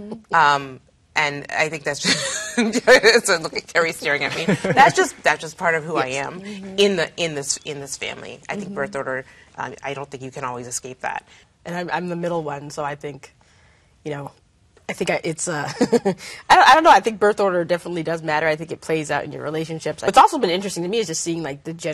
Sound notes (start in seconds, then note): 4.0 laughing